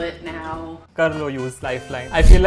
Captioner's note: speaking in Hindi